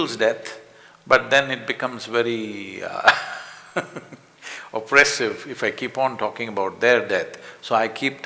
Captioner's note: laughs